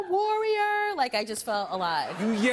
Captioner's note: laughter